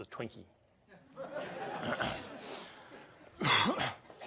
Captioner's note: audience laughs